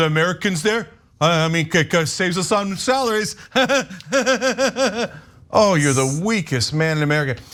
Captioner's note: laugh